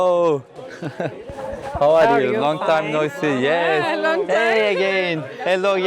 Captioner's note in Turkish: kahkaha